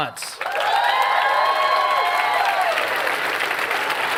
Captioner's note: cheering and applause